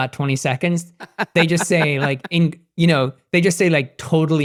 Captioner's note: laughing